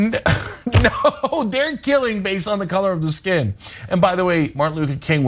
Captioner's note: laugh